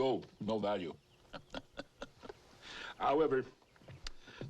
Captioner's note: laughs